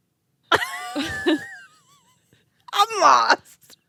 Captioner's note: laughing